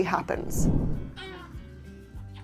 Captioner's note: screen whooshing; baby moaning and then going quiet